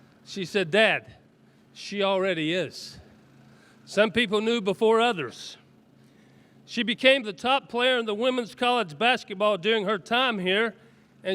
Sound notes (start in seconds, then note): none